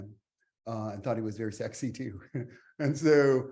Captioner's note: chuckles